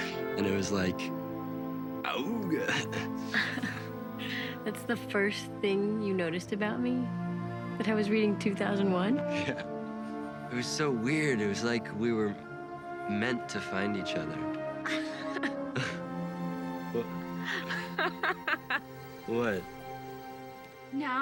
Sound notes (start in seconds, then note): 15.0 laughs